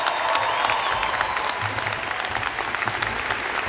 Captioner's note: applause